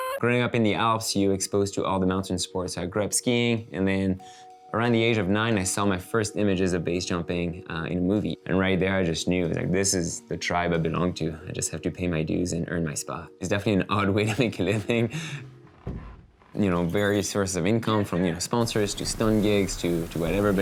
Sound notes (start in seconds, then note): 14.2 chuckles